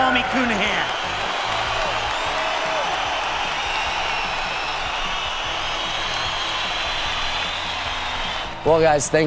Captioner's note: applause